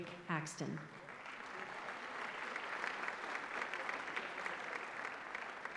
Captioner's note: applause